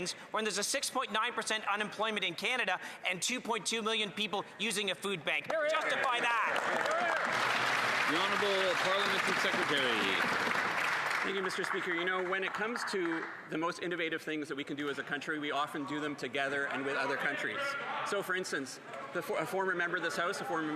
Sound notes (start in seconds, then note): 14.0 some Applause